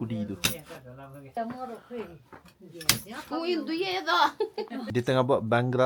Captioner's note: speaking Nepali